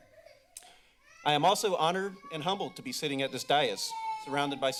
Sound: child crying

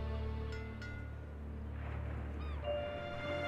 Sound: buoy clangs

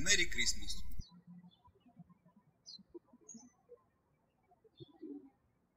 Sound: birds chirping

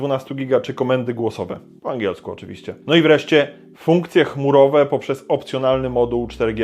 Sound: in English, of course

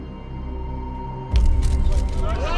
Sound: camera shutters clicking, reporters clamoring

